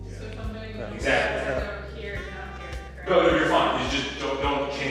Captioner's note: chatter echoing